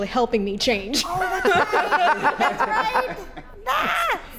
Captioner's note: laugh